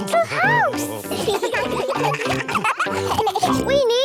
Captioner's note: children giggling